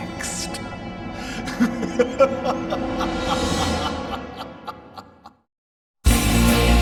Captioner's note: laughs